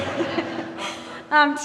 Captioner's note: audience laughing